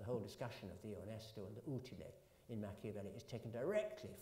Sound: italian

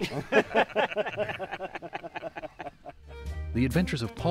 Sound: men laughing

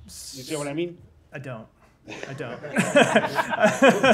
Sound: laughter

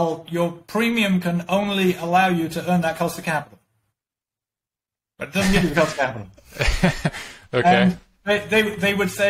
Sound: laughing

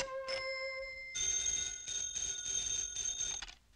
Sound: phone ringing

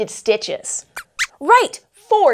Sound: squeaks squeaks

